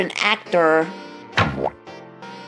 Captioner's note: disappointment noise